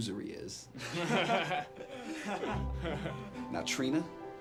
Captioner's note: boys laugh